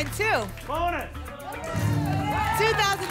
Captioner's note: cheering